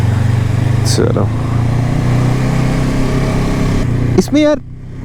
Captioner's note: engine thrum